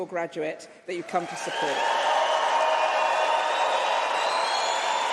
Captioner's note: applause